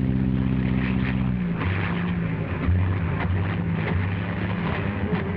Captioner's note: plane engine sputtering